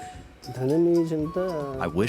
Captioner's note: painter speaks foreign language